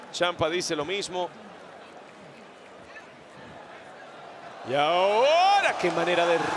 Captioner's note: applause